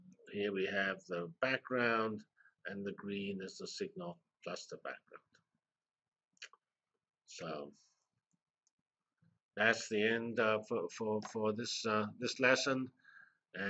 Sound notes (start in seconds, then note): 5.5 pause